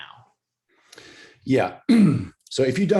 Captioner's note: clears throat